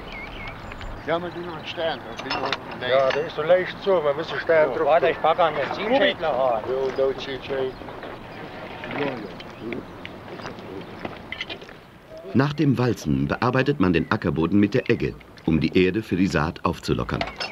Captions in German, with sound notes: [Arbeitsgeräusche] Nach dem Walzen bearbeitet man den Ackerboden mit der Egge, um die Erde für die Saat aufzulockern.